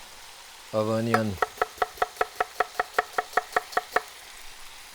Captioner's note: knife chopping